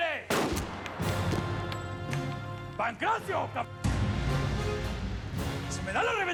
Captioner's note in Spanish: detonación de disparo